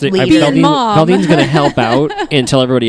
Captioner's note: laughs